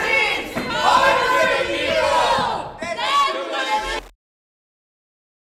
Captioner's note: crowd